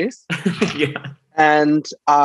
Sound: laughs

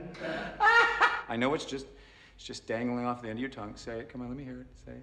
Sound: laughing

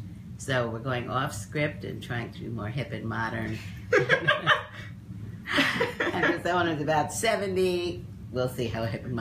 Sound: laughs

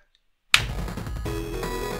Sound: shlap

